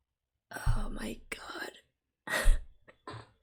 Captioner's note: laughs